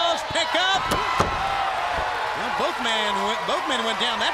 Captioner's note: crowd cheering